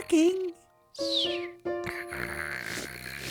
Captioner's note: snoring